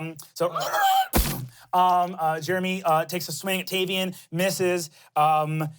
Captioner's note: squeals